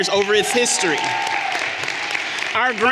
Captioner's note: everyone applauding and cheering